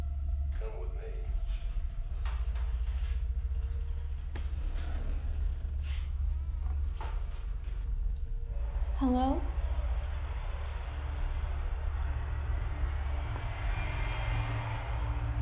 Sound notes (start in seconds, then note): 8.3 door creaking; 11.0 gentle tense music